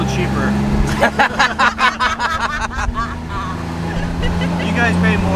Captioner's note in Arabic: ضحك